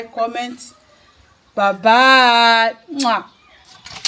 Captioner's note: kisses